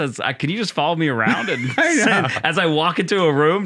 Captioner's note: laughter